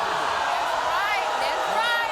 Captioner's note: audience booing